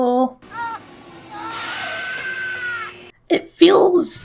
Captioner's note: screams of agony